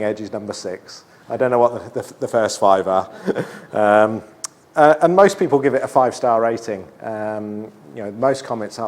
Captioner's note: laughs